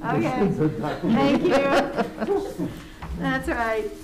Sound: members laughing

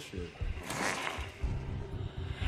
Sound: growls

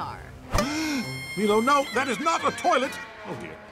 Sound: gasps

